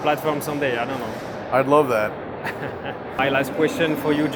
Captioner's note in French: Rires